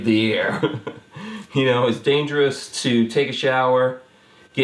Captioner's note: chuckles